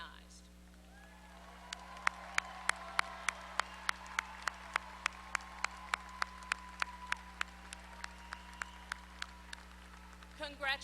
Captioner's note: applause